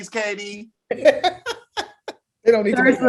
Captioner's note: laughs